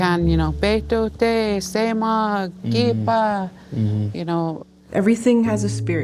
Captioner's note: speaking Cree